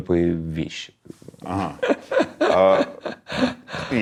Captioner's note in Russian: смеётся